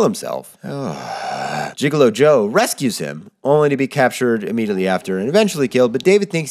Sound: sigh

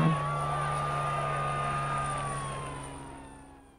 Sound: sirens and shouting fade

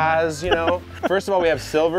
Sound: laughs

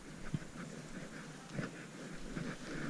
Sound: noises in the staircase

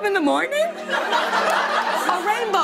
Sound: laughter

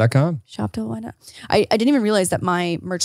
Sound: faintly speaks

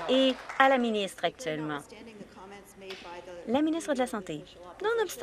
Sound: some Applause

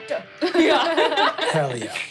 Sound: laughing

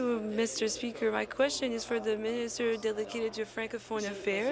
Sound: speaking in French

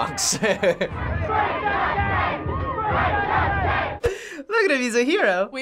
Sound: crowd; chuckles

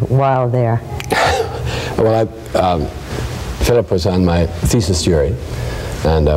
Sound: laughs

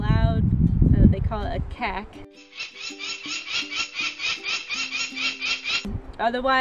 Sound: peregrine cacking

